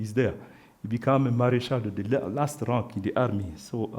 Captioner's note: speaks French